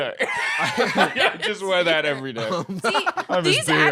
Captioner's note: laughs